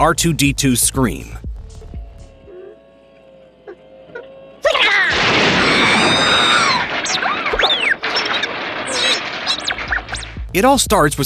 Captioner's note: R2 screams